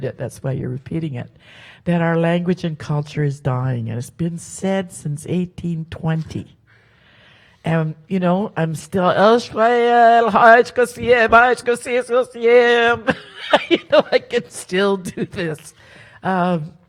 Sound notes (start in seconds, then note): 10.1 speaks Halkomelem